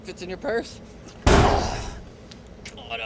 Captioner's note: slams, Pruitt grunts